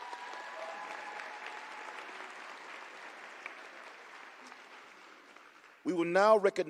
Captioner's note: applause